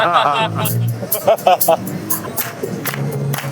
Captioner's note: laughing